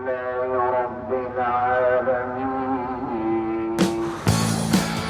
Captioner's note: praying in Arabic